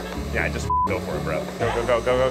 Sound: beep

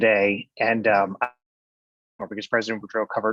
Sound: distorted audio

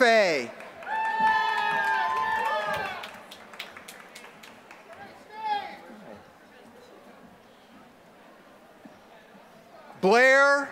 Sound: applause

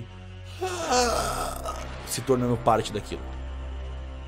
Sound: scream

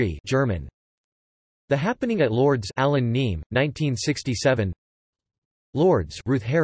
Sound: German

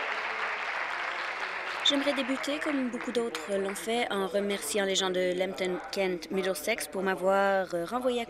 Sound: applause

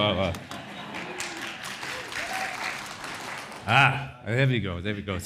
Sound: audience applauds

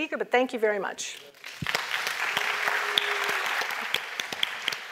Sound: applause

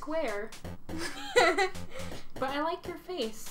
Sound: Blueheart laughs

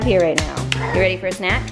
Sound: clapping

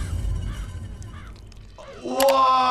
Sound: bird chirping

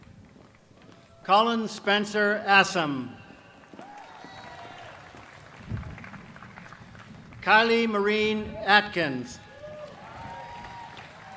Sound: applause

